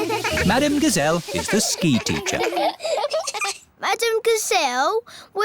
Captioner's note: laughing